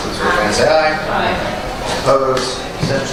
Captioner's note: A chorus of ayes